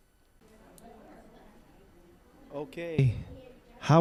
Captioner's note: general chatter